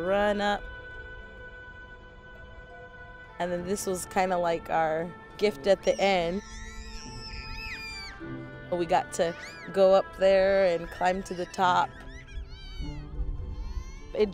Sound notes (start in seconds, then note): 6.2 kids yelling